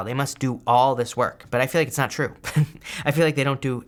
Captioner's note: he chuckles